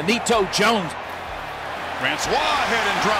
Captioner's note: crowd cheering